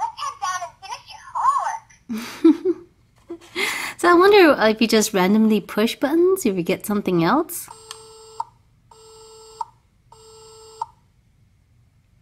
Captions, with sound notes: Let's sit down and finish your homework. (Voiceover laughs) - [Voiceover] So, I wonder if you just randomly push buttons if you get something else. (dial tone)